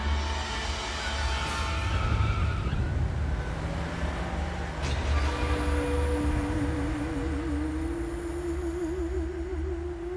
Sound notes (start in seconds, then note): 0.8 tires screech; 1.5 engine revs